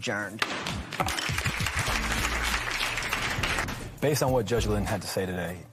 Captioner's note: applause